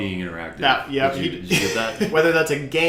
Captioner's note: laughs